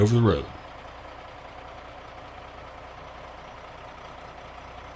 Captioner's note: engine roaring